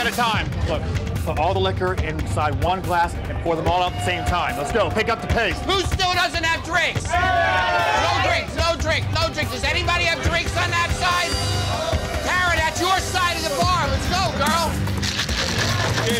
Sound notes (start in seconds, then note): 6.5 cheers